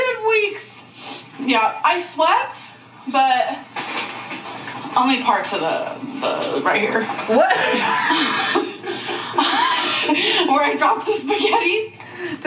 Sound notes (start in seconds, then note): 7.3 sighs exasperatedly